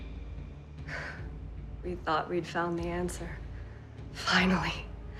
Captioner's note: scoffs